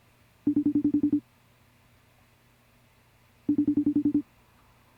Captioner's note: phone ringing